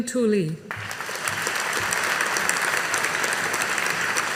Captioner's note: audience applauding